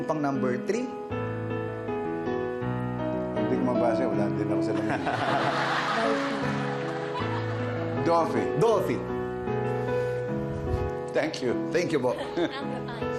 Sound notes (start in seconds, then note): 4.7 laughter; 6.9 whispers